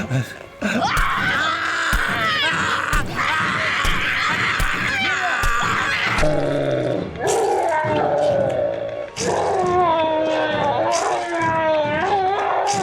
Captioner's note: Screaming from Mia and from man; gory sound of repeated stabs from claw